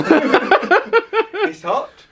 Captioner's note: laughing